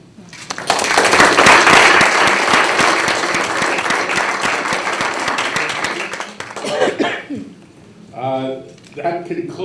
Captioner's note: applause